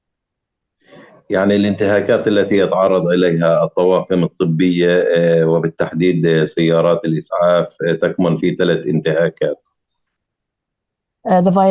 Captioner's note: speaking arabic